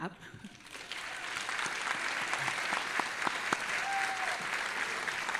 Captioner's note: audience applauding and cheering